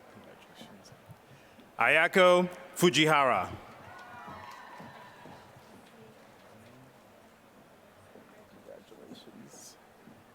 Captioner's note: applause